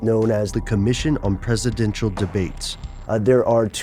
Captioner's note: voiceover